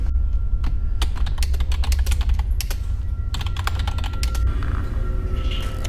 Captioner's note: keyboard keys clacking